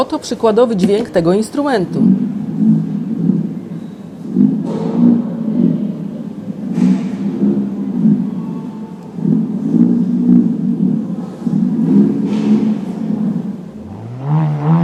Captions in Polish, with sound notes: przykładowy dźwięk tego instrumentu. (dźwięk czuryngi)